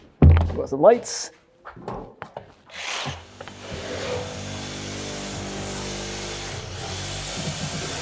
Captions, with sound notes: Watch the lights. (saw humming)